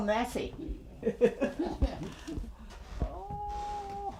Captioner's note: laughing